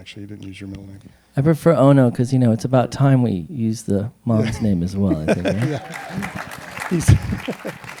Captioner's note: applause